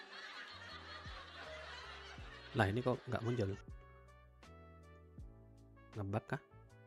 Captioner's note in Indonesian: tertawa